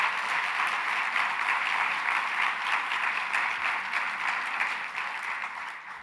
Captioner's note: applause